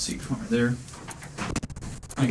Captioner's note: clock ticking